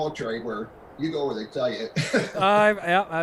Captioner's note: laughs